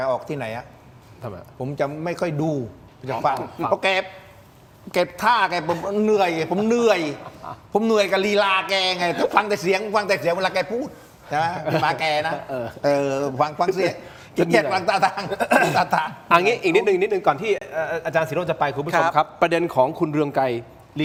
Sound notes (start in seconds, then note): 15.0 laughter; 15.5 clears throat